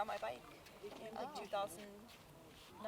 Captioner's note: women chattering